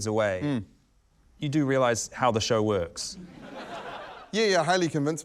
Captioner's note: laughter